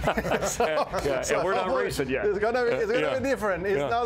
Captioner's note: laughter